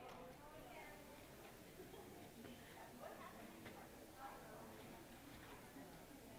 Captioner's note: chatter